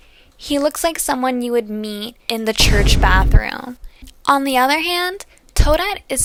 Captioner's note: boom